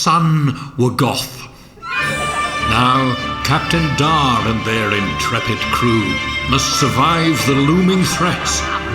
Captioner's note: offscreen, makes a note of surprise